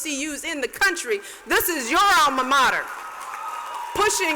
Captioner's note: cheers and applause